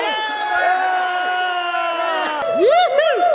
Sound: cheering

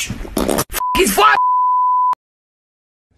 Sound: TV Color Bars Sound Effect

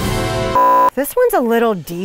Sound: beep

